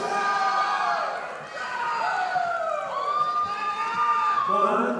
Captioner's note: audience applauding